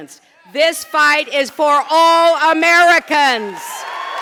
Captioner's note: applause